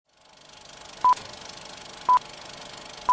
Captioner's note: film stripping